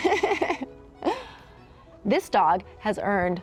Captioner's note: laughs